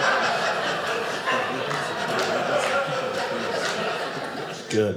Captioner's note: audience laughing